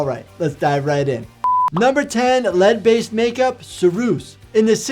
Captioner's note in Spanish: pitido